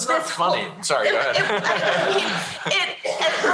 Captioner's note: laughter